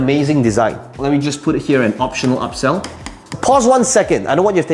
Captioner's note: tapping marker